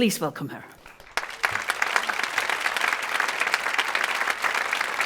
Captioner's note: audience applauds